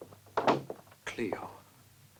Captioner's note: door closes